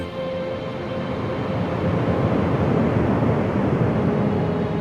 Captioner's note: memory image whooshes